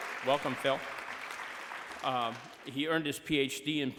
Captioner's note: applause